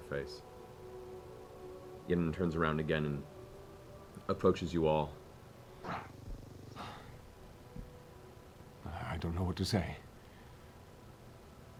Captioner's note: sighs